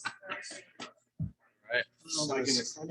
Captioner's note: people chattering indistinctly